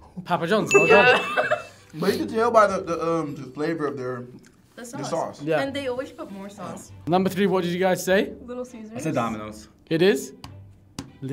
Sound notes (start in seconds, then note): 0.7 bell dings; 0.8 both laughing